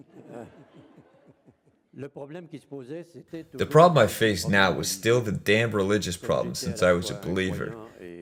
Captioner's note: laughs